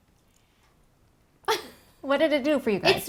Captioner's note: laughing